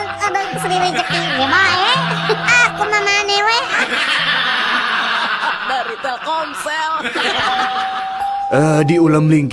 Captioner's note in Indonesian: tertawa